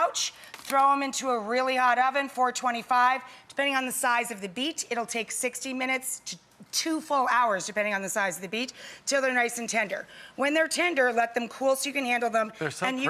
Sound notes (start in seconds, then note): none